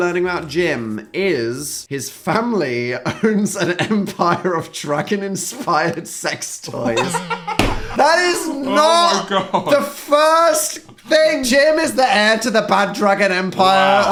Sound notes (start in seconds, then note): 6.7 Phil laughing